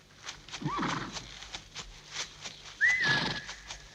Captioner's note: horse whinnying